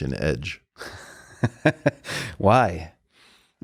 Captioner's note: Lex chuckling